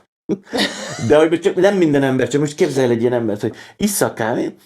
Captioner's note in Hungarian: nevetés